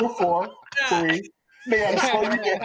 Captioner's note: laughter